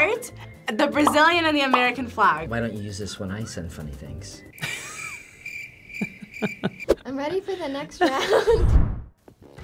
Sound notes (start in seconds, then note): 1.0 bubble pops; 4.6 chuckles; 4.6 crickets chirping; 8.9 chuckles